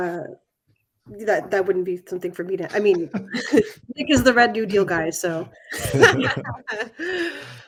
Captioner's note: laughter